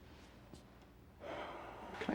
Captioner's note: sighs